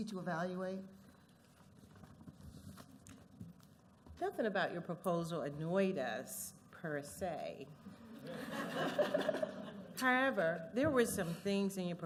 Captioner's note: laughter